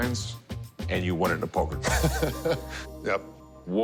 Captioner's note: laughs